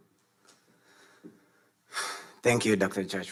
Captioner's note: sighs